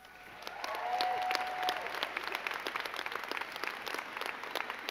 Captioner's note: crowd cheering and clapping